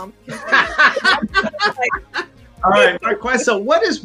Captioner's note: people laughing